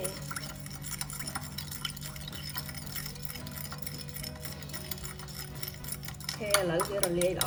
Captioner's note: stirring sound